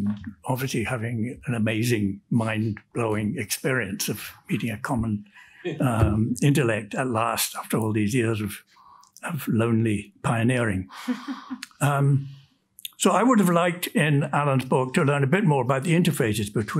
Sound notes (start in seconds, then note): 11.0 woman chuckles